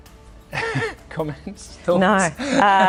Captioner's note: laughs